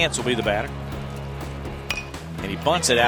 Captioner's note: bat hits ball